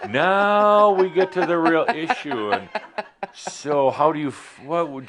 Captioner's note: she chuckles